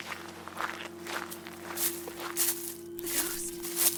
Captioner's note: rustling